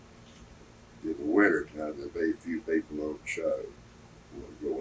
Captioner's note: laughs